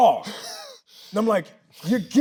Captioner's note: Tyler laughs